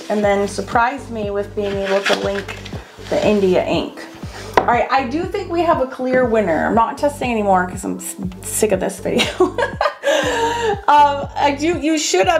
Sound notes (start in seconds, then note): 9.3 laughs